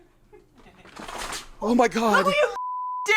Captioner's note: plant thuds; beep